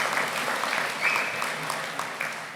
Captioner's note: applause